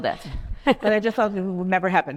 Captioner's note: laughs